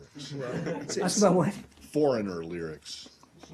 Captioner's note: laughter